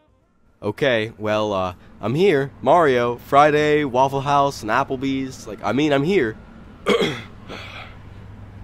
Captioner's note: cough